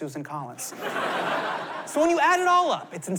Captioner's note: laughter